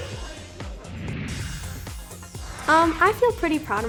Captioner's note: air whooshing